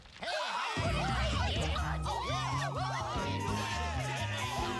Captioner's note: cheering